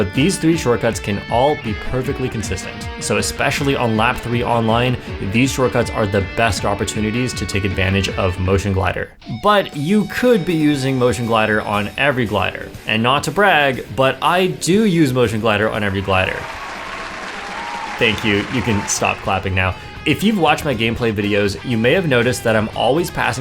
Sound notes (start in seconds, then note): 16.0 claps